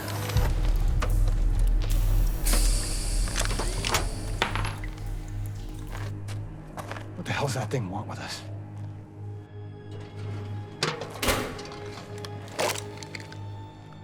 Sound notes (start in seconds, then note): 3.7 bullet clangs; 10.2 suspenseful music